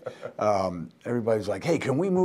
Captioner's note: laughing